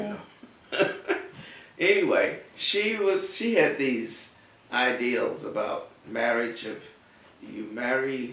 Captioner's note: laugh